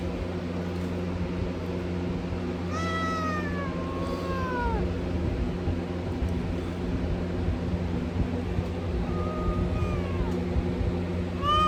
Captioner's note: Caprice meows in anger